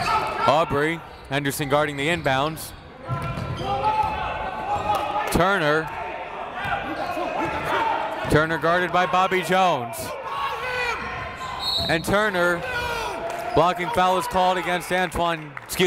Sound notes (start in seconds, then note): 11.4 whistle